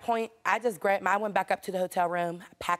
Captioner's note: none